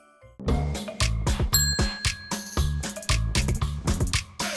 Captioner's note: soft Christmas music; upbeat instrumental music; loud dinging